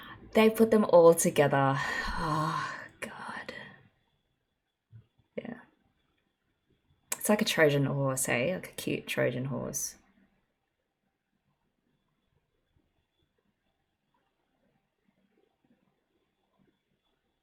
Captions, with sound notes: They put them all together. [sighs] Oh god. It's like a trojan horse, hey. Like a cute trojan horse.